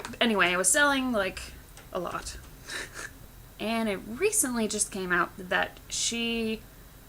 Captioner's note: laughs